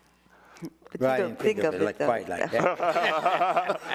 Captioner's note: everyone laughing